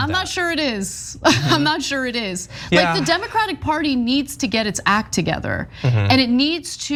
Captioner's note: laugh